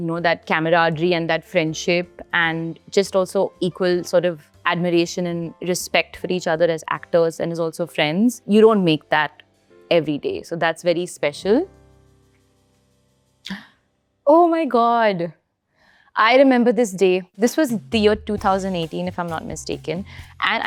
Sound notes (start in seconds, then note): 12.8 relaxed jazz music subsides; 13.6 gasps; 19.7 chill jazz music